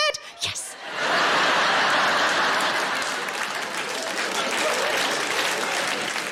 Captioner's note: audience laughing and applauding